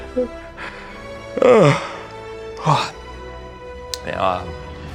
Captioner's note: yawn